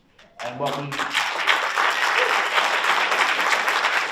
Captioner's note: audience applauds